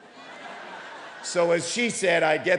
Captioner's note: audience laughing